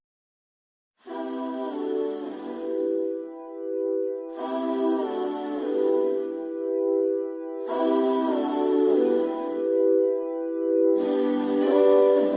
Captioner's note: humming